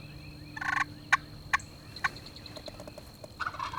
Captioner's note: turkey call; turkey gobble